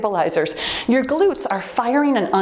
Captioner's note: timer beeps